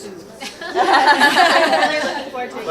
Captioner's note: all laughing